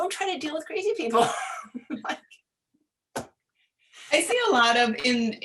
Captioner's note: laughing